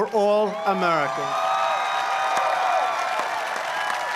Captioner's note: applause